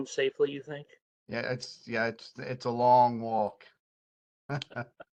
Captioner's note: laugh